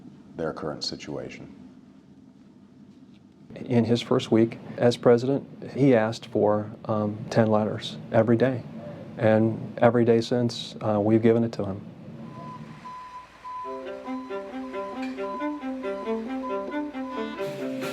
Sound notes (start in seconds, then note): 12.2 beep, beep, beep